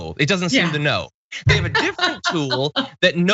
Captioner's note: laugh